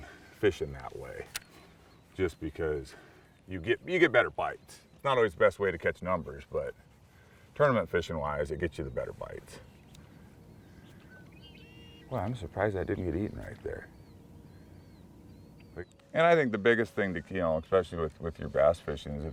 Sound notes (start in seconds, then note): 11.0 birds singing